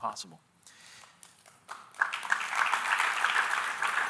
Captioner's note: audience applauding